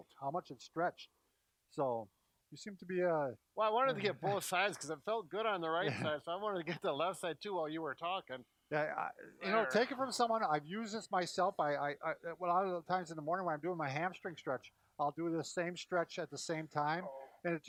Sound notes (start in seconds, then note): 4.2 mutters; 12.0 stutters